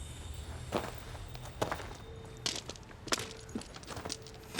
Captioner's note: gravel crunches